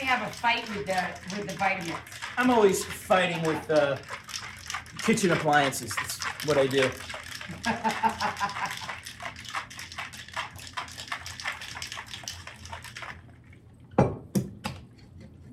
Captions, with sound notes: have a fight with the Vitamix. I'm always fighting with the kitchen appliances. It's what I do. (laughing) (ice clinking sound) (splishing and splashing)